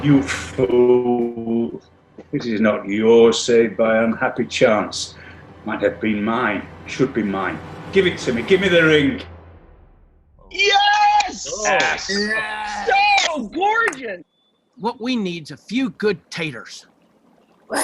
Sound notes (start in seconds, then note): 10.5 group cheers